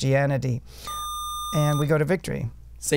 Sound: buzzer

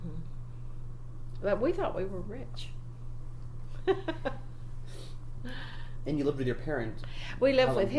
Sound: laughs

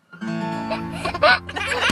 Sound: laughter

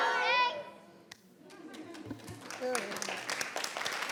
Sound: people clapping

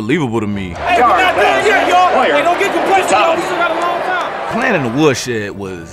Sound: and other players talking

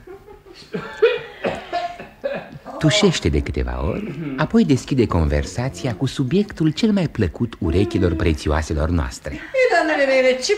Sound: clears throat

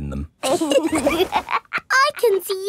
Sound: laughs

